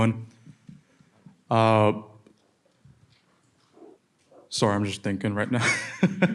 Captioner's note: laughs